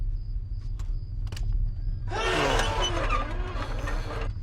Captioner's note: shrieking machinery